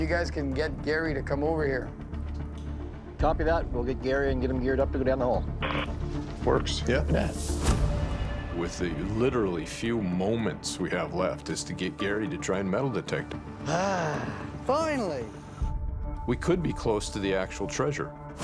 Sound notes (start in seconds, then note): 13.6 sighs